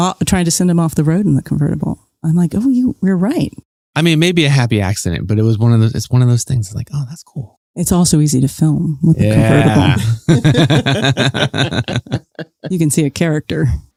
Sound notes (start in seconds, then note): 9.3 chuckles